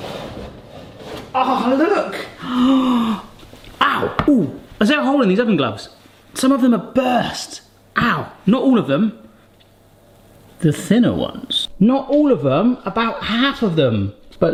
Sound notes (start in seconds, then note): 2.3 gasps